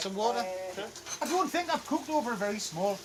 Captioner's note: sizzles